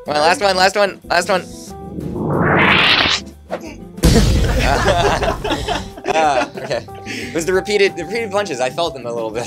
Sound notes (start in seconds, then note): 2.0 zooming sound; 4.0 boom; 5.0 laughing